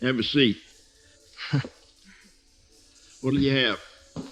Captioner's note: Will Chuckling